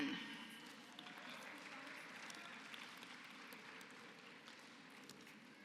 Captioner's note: applause